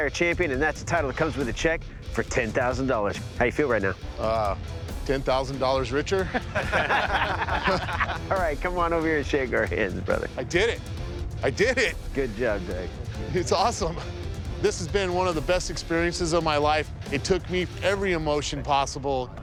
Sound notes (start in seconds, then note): 6.2 laughter